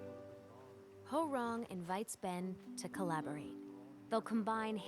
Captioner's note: bell